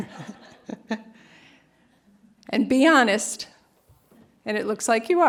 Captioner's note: laughter